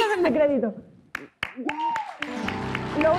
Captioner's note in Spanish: Aplausos